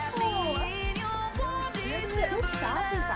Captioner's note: indistinct chatter